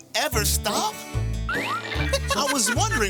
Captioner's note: laughs